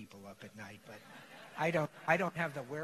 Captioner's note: laughter